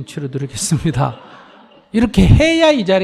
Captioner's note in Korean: 청중 / 스님 웃음